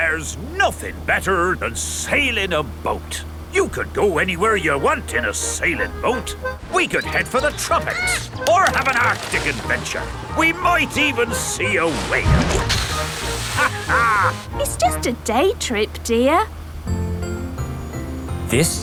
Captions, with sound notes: There's nothing better than sailing a boat. You can go anywhere you want in a sailing boat. We could head for the tropics, or have an Arctic adventure. We might even see a whale! (CAPTAIN DOG LAUGHS) It's just a day trip, dear.